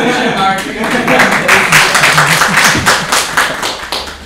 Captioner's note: applause